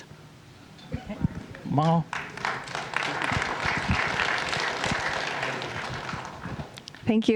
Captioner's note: applause